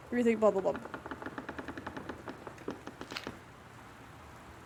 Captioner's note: loud Rattling